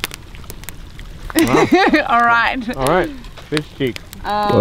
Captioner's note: laughter